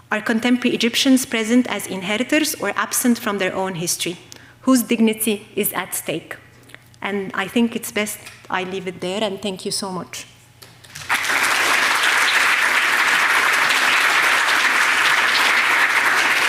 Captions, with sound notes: Are contemporary Egyptians present as inheritors or absent from their own history? Whose dignity is at stake? And I think it's best I leave it there, and thank you so much. (audience applauding)